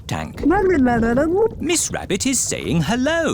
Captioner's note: gurgling